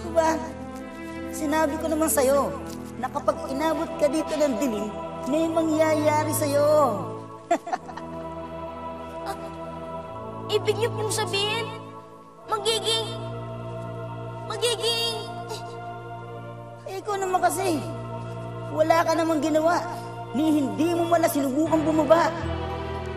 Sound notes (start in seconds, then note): 7.4 chuckles